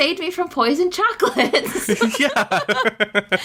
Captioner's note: laughs